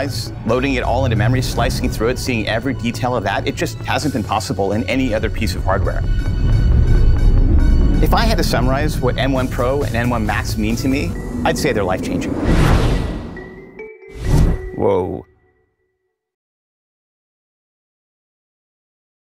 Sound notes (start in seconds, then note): 12.3 whoosh